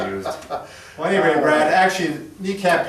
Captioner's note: laughs